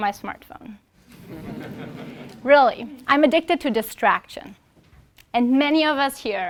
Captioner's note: laugh